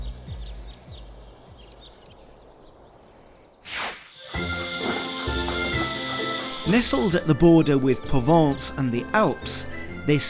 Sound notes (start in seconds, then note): 0.0 birds chirping; 3.6 screen whooshes; 4.2 lively music